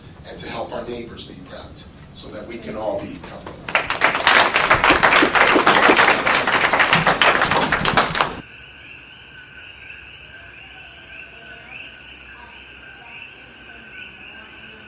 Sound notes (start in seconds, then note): 3.2 clapping; 9.6 crickets